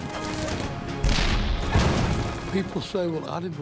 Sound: cannon shots exploding

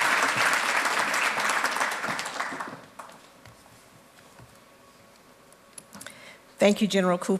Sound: applause

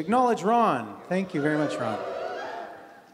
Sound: crowd cheers

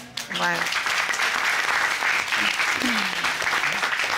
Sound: applause

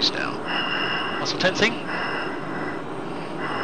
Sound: heavy breathing

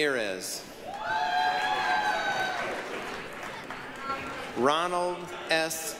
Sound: applause, cheering

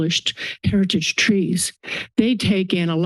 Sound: inhales

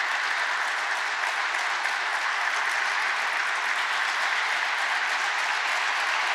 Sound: applause

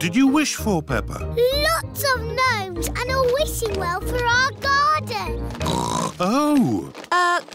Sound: oinks

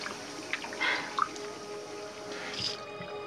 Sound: water stops

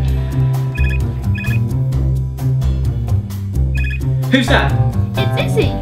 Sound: phone ringing

